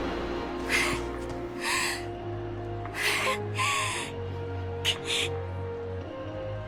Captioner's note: gasp; huff